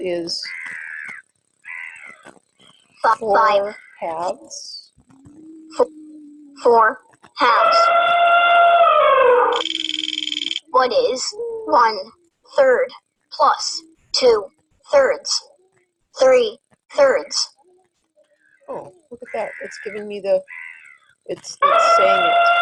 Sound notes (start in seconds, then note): 6.1 voiceover; 7.4 elephant trumpeting; 9.5 wheel clicking; 10.9 voiceover